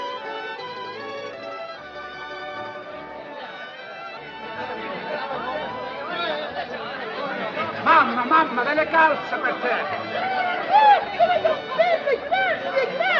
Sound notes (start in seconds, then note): 3.5 soldiers chattering; 8.3 speaks in italian